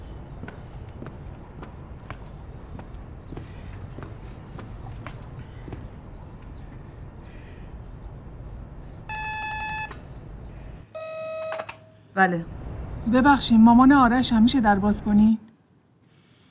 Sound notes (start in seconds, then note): 9.0 doorbell ringing